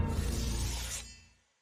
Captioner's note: blade scrapes